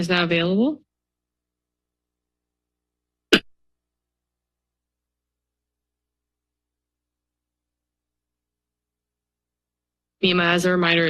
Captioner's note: silence